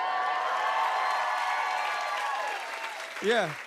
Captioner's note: cheers and applause